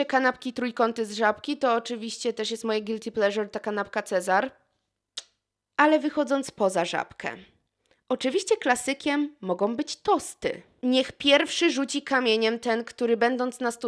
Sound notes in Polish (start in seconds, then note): 5.1 cmoknięcie